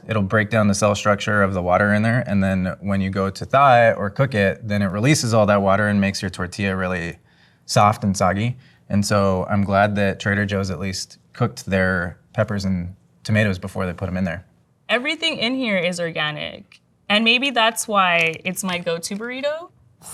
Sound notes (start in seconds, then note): none